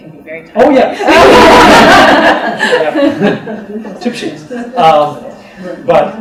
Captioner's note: laughter